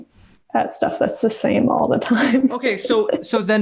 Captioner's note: laughs